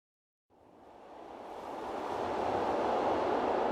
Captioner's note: wind whooshing